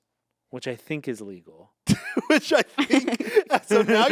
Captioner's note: laughs